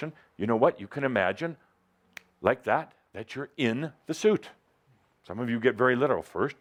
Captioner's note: snaps his finger